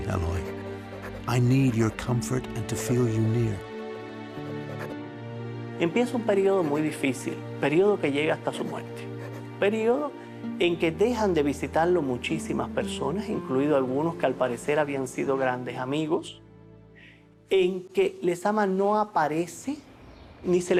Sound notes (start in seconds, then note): 6.6 speaking Spanish